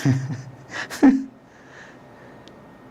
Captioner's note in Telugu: నవ్వు